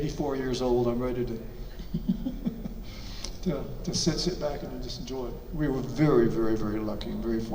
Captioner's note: chuckles